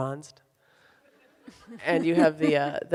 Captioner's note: audience laughs